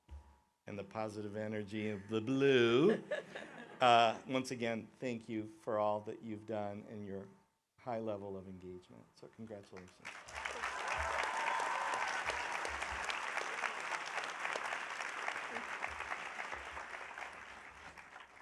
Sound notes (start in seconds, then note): 11.9 audience applauding